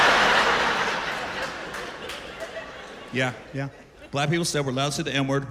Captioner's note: laughter